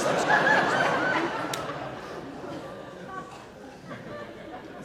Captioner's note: audience laughing